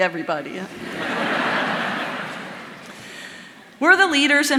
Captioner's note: audience laughing